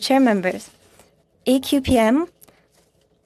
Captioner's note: speaking French